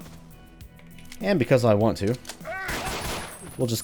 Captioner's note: pew pew pew